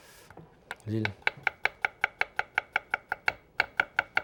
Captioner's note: knife tapping